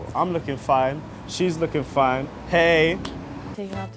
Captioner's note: hands clapping